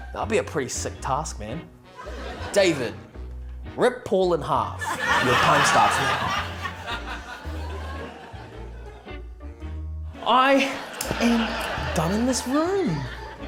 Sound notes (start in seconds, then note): 4.8 laughter